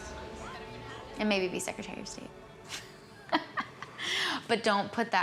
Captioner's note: laughing